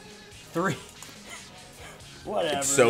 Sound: laugh

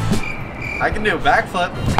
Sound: cricket noise

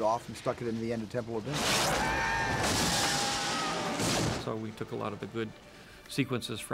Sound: crash and explosion

